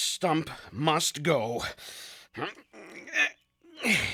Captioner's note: groaning